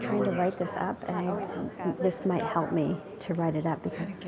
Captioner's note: audience mumbling